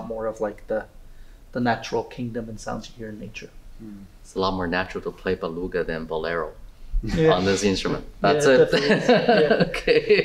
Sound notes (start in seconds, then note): 8.3 laughs